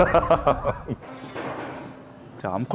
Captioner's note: chuckles